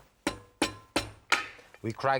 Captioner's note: hand mallet thuds